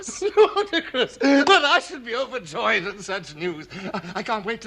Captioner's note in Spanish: Risas